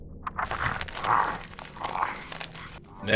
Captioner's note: lorne growling and chewing